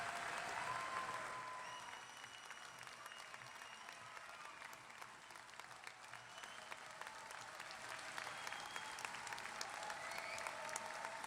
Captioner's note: applause